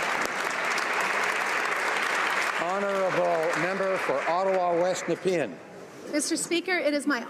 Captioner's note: applause